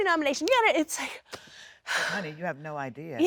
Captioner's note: sighs